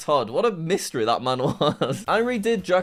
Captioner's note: laughs